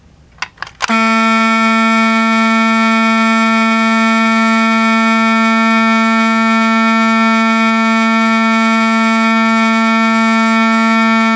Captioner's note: loud continous fire beeper beep noise